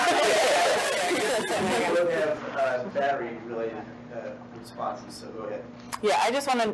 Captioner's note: indistinct chatter